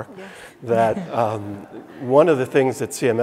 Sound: audience chuckling

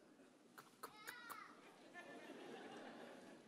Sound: whispers; audience chuckles

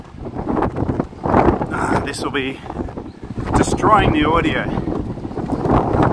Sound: wind

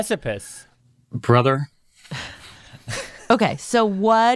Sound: laughs

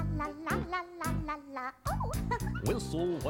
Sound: giggles

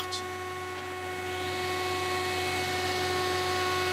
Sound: machine noise

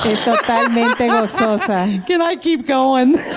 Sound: laughter

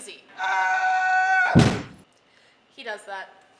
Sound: josh screaming

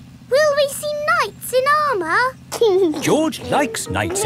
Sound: giggling

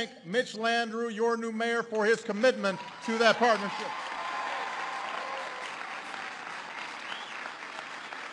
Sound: applause

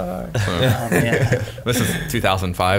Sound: laughing

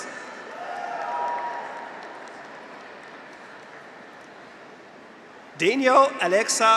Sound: graduates cheer; audience applauds

